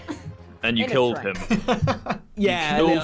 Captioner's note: laughs